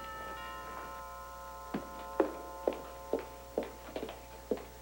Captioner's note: doorbell rings